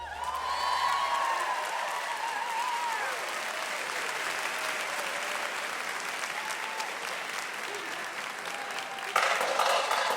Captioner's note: clapping; drums